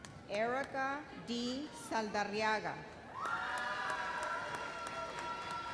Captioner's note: audience cheers